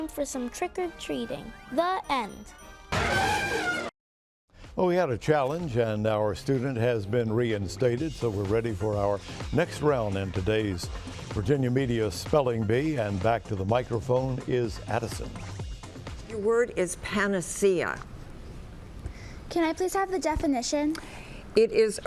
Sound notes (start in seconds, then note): 3.0 elephant blaring